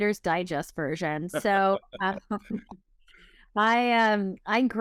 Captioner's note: laughs